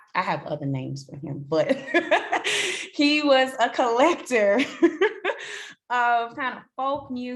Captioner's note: laughs